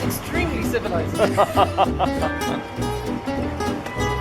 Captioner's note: laughter